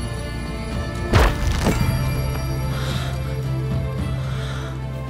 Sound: crumble sound

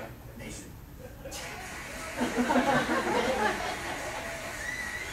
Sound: crowd in video cheers and claps; audience laughs

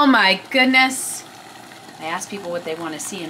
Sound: water boiling

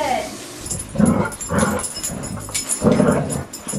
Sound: growling

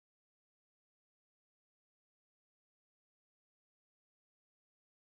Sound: silence

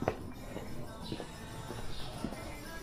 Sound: people chattering

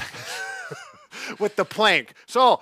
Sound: laughing

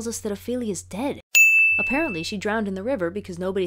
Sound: ding!

